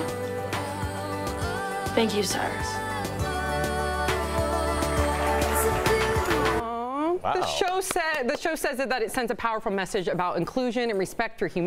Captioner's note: applause